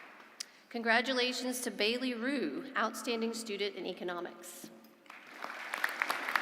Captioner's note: applause